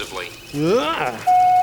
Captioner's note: Muppet exclaims; beep